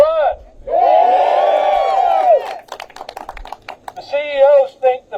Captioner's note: applause